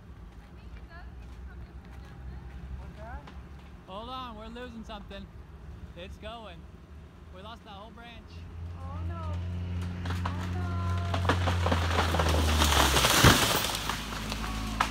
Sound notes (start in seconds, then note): 3.5 creaking of wood; 9.8 louder creaking; 10.9 thunderous crash; 11.4 roar of passing vehicle's engine